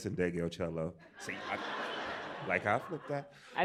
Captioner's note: laughter